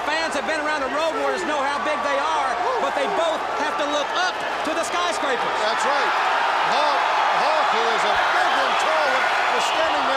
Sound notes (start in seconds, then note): 6.9 crowd cheering